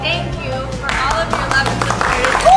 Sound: cheering

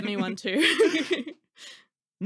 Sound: laughing

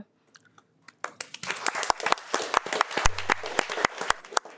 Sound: audience applauds

